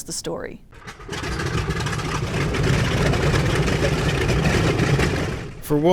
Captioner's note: plane rudders spinning